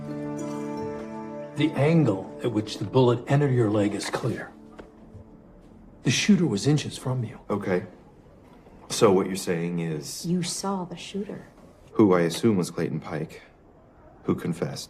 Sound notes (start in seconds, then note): none